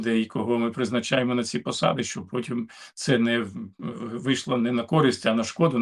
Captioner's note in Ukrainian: прочищення горла